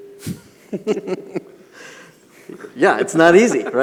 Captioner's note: laughing